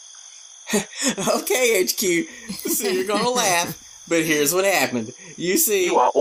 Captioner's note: Charlene and Bubba laugh